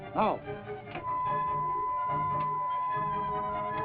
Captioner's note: beeping